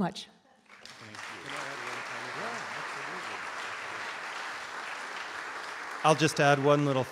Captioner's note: audience Applause